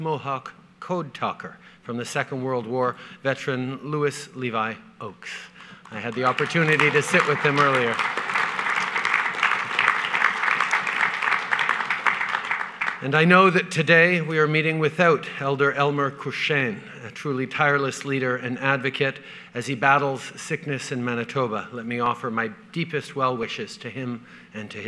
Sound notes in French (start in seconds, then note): 5.6 Applaudissements